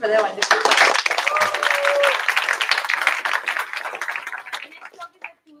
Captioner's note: applause